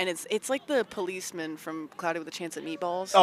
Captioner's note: none